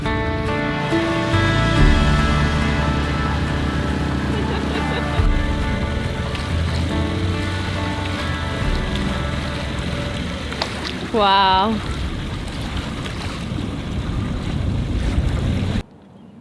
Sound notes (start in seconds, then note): 3.2 boat engine roaring